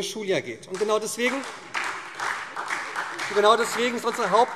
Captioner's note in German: Beifall SPD und DIE LINKE